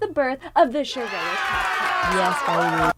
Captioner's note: children applauding